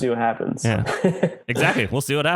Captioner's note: laughs